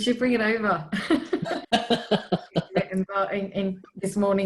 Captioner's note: laughs